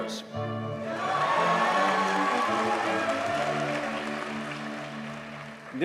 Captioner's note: audience cheers and applauds